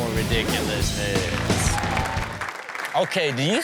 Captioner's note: rock music; audience cheering